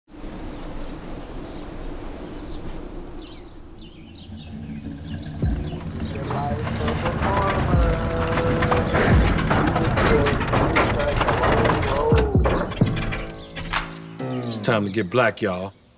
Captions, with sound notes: [BIRDS CHIRPING] [MUSIC PLAYING ON CAR RADIO] This is the life of a farmer. - It's time to get Black, y'all.